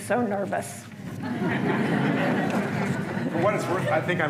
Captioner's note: laughter